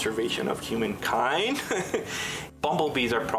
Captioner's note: laughs